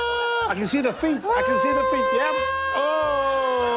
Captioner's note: wails